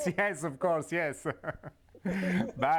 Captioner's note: laughter